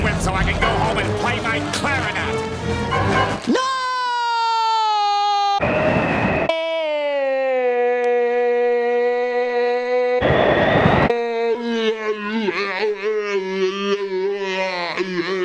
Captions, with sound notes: so I can go home and play my clarinet! [screaming in slow-motion] No...! [screaming continues] [mumbling in slow-motion]